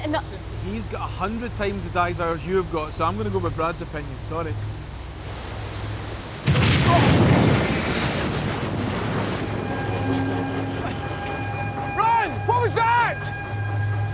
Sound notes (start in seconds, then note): 6.4 thud; 7.6 water splashing